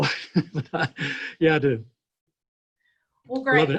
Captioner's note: laughs